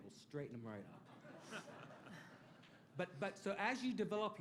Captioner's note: laughter